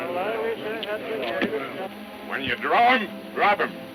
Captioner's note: men muttering